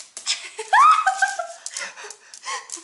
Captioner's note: screaming